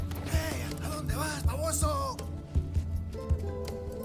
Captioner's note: Spanish spoken audio